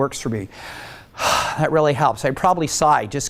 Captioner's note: sigh